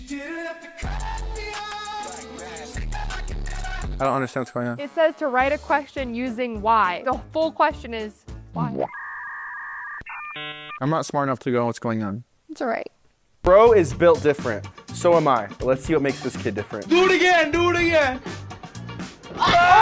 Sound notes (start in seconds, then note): 8.8 machine whining